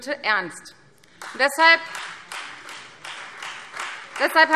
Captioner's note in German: Beifall Freie Demokraten